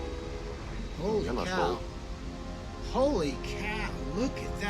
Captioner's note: speaking in foreign language